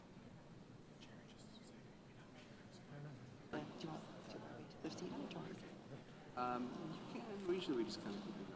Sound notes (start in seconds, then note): 4.1 audience chatters